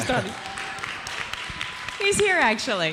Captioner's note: audience applauds